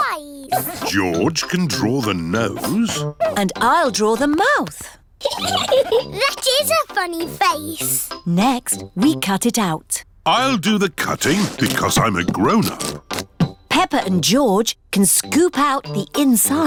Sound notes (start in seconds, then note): 5.2 giggles